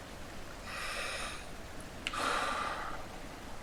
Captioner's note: breathes deeply